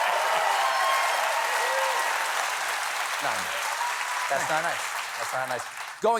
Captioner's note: applause